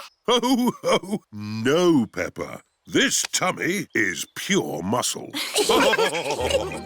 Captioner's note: laughs; all laughing